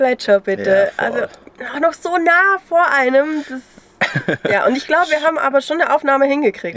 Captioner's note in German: lacht